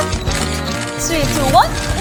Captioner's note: sassy